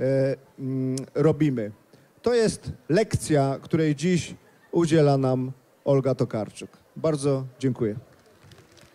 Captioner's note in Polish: oklaski